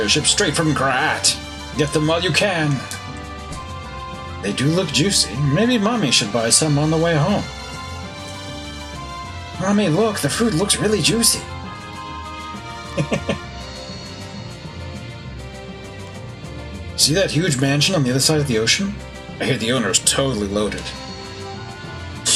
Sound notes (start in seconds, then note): 12.7 chuckles